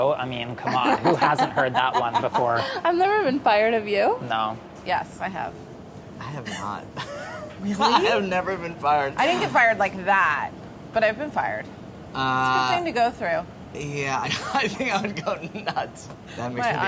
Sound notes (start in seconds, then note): 0.7 laughs; 6.9 laughing; 14.3 laughs